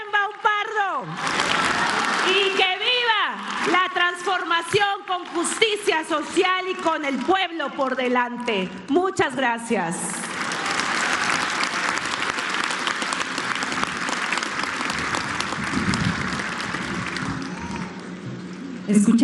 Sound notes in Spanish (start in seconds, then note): 0.0 aplausos; 14.0 aplausos